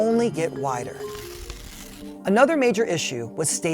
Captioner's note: paper ripping